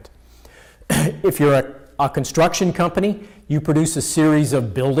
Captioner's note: clear throat